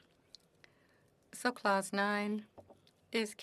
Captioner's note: speaking French